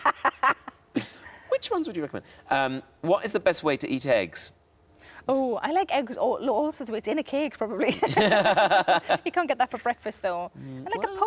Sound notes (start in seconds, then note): 8.0 both laughing